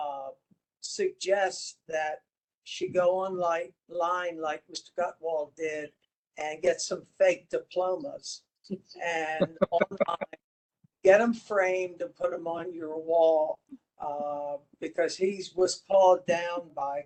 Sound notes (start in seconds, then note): 9.4 laugh